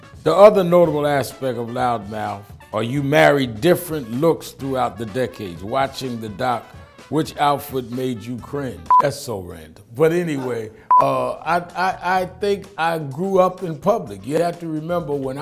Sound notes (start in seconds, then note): 8.8 beep; 10.8 beep